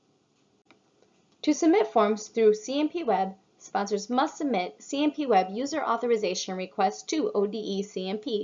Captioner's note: click